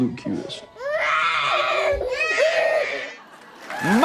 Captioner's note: crying